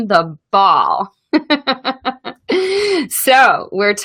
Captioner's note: laughs